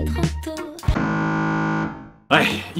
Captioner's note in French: Buzz d'erreur